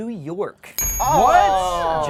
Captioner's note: bell dings